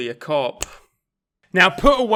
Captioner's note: fingers snapping